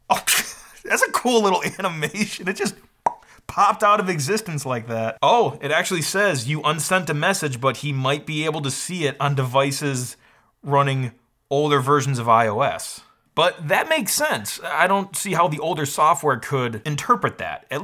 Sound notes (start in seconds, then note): 3.0 mouth pops